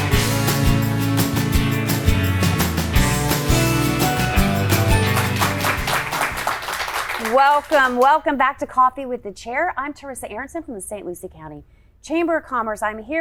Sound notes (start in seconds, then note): 0.0 upbeat music; 5.6 audience applauds